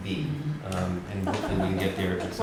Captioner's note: laughter